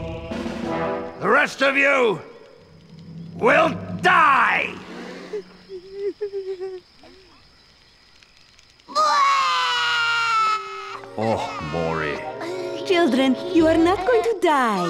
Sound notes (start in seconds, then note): 5.0 whimpering; 8.9 crying